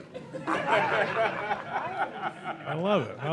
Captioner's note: audience laughing